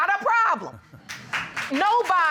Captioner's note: audience applauding